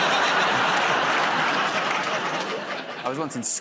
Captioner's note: laughter